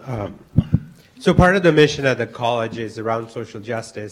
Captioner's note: voiceover